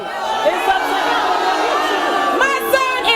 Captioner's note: audience booing